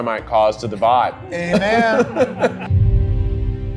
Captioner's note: laughs; dramatic music